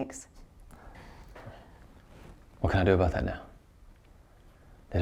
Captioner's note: breathes uneasily